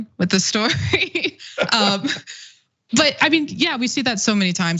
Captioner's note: laugh